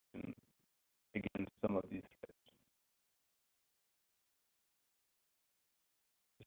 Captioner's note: audio blurs; audio blurs